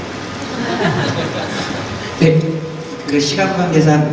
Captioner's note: laughing; speaks in foreign language